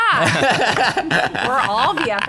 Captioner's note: laughter